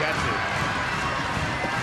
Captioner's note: crowd cheering